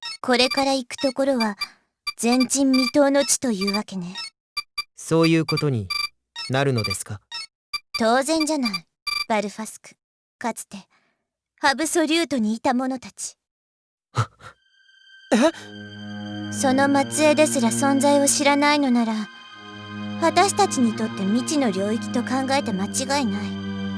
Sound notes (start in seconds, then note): 14.5 gasp